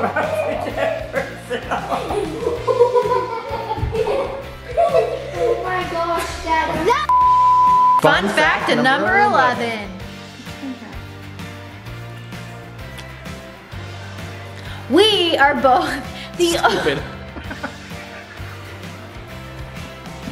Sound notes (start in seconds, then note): 0.0 all laughing; 7.1 tone sounds; 17.2 laughter